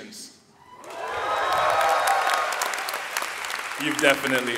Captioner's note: audience cheering and clapping